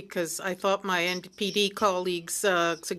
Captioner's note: speaking French